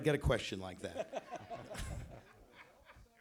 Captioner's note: laughter